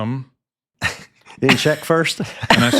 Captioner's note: laughs